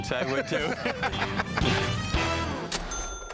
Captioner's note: laughter